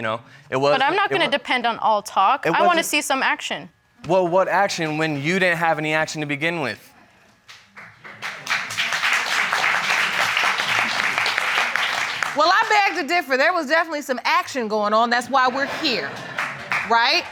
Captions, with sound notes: But I'm not gonna depend on all talk. I wanna see some action. Well, what action when you didn't have any action to begin with. (APPLAUSE) Well, I beg to differ. There was definitely some action going on that's why we're here. (AUDIENCE LAUGHS) Right?